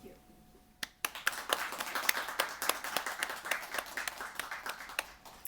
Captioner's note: applause